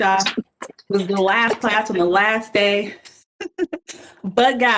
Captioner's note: laughing